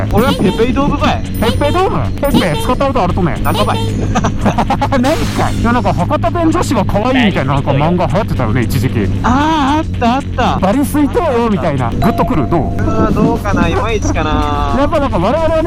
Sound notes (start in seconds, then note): 3.9 hakata dialect